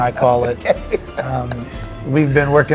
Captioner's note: laughing